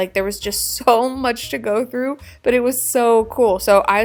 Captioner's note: chuckling